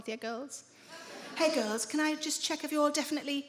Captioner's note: smug voice